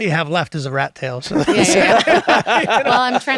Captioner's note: laughter